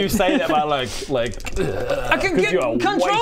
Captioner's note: eerrrrgrgggh